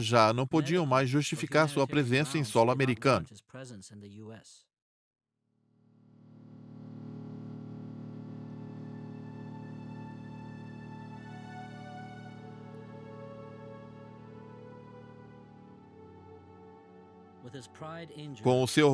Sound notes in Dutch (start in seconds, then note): 6.1 vliegtuigmotor draait; 8.1 rustige instrumentale muziek